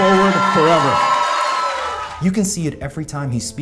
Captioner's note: audience cheering